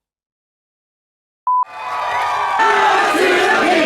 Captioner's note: crowd cheering